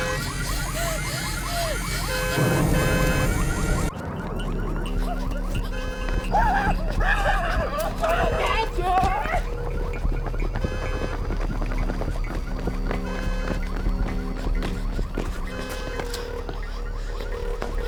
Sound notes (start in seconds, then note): 0.0 Abby pants; 2.0 fire roars; 4.8 car alarm blares; 9.6 rapid footsteps; 13.8 Abby pants